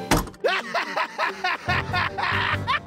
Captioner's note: maniacal laughter